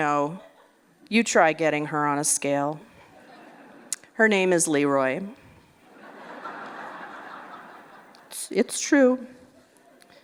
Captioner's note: laughter